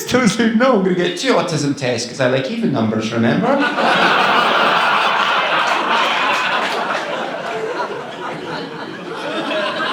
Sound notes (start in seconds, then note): 3.4 audience laughing